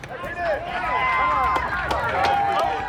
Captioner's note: cheering and applause